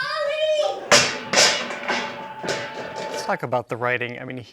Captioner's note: pie pan clanging